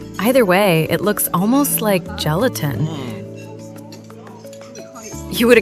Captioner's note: haha